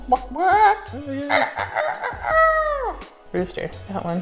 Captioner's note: chicken sound; rooster sound